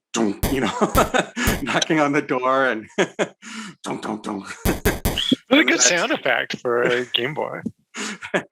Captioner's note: knockknockknock